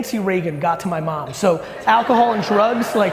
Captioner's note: audience laughing